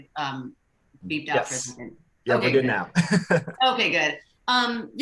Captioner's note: laughs